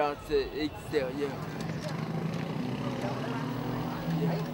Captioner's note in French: bruits de rue